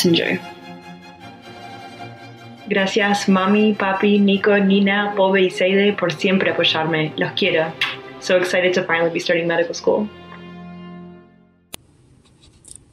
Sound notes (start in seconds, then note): 3.4 non-english speech